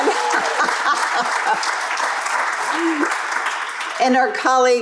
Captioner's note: crowd applauding; woman laughs